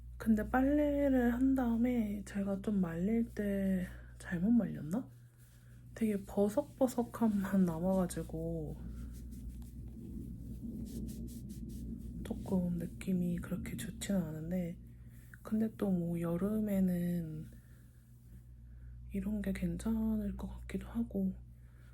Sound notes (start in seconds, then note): 9.6 thunders